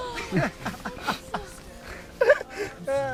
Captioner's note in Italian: risate